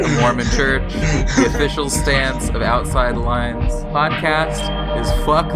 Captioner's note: laughing